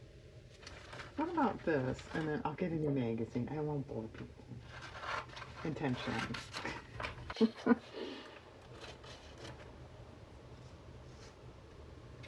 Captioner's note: laughs